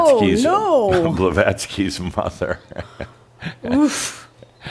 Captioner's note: Adamus chuckles